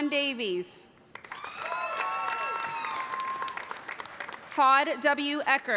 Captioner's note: cheers and applause